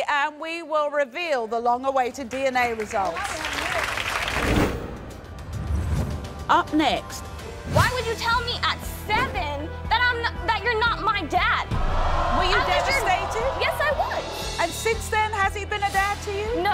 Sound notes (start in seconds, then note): 2.3 applause; 4.4 suspenseful music